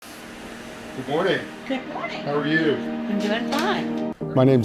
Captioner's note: background talking